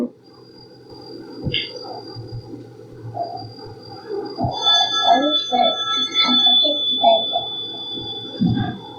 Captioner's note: phone rings